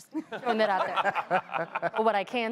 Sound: laughter

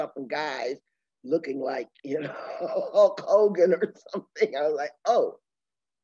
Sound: laughing

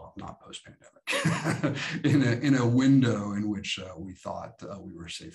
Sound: chuckles

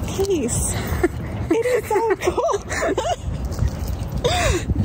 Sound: laughs

